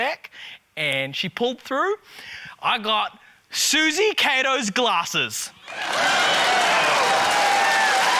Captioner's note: cheering, applause